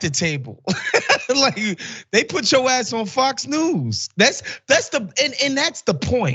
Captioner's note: laugh